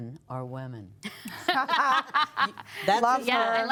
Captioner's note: laughter